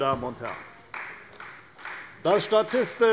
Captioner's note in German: Beifall bei der CDU